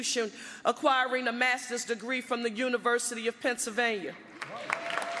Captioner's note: applause